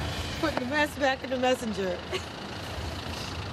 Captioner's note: chuckles